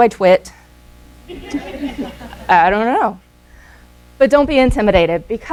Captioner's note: laughter